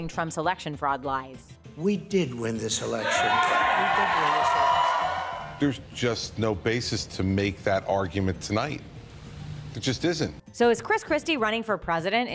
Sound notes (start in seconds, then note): 2.8 crowd cheers